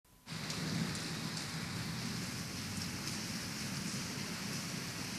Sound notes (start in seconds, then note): 0.2 rain falling